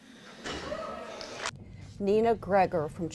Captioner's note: audience cheering